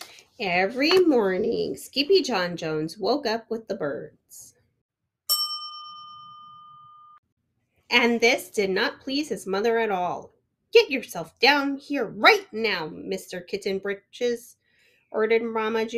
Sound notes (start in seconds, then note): 5.3 bell dings